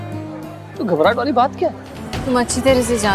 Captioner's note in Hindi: none